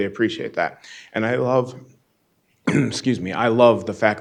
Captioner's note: clears throat